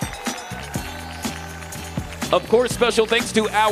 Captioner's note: audience applauding; audience cheering